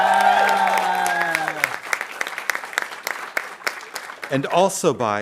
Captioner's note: audience cheering and applauding